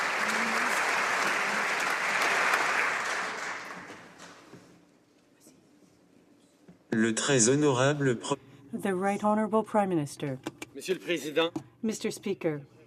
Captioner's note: applause